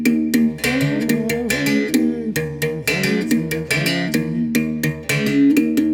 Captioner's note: foreign language